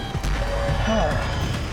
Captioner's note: sighs